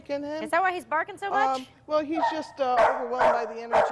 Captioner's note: dog barking